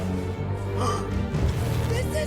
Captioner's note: gasps